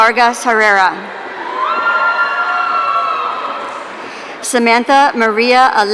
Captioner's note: audience cheering